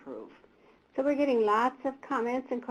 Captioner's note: voiceover